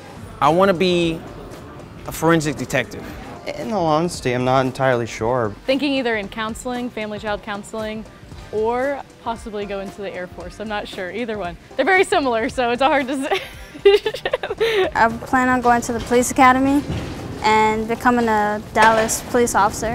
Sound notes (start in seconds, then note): 13.1 laugh